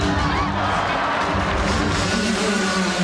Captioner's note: crowd cheers